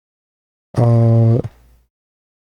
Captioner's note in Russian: фыркает